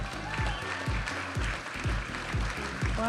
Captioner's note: audience applauding and cheering; vibrant music